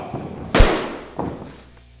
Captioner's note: gun Shot